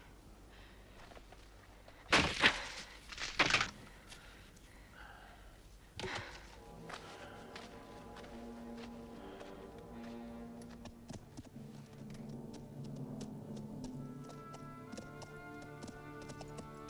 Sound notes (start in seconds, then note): 2.3 weapon handle snapping; 7.3 dramatic music